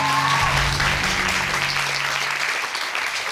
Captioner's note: audience applauding